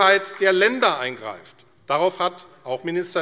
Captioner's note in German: Beifall AfD